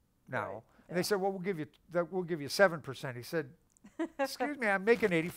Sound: laughs

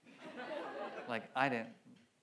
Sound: audience laughs

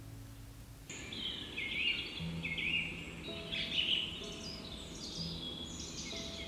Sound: birds singing; gentle piano music

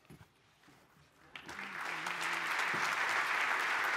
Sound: applause

